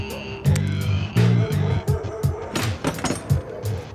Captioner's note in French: aboiements au loin